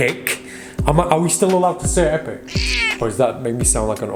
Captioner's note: meows